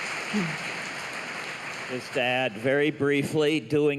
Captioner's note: applause